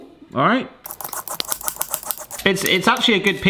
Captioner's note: rapid scraping